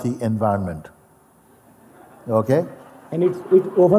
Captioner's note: Lachen